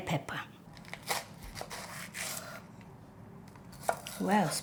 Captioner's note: knife slicing